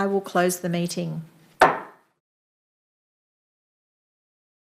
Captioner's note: hammer slams